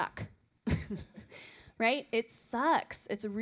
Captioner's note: laughter